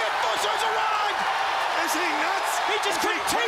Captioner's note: crowd cheering